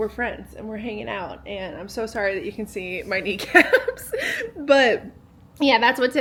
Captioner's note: laughing